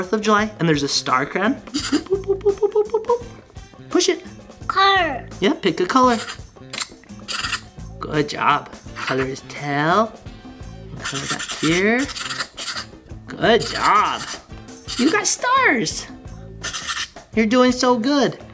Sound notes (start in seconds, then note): 1.7 imitating "boop" sound; 11.9 sound of scribbling